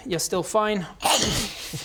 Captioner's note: nom